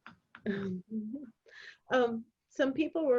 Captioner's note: chuckling